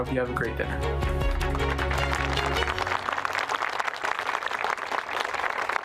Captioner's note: applause